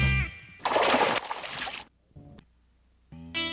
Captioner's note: music stinger; splash; blues music